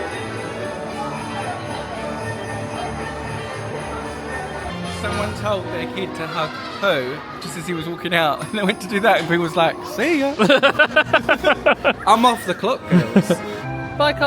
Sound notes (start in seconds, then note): 0.3 bright festive music; 12.8 laughing